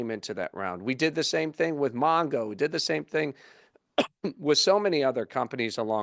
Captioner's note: cough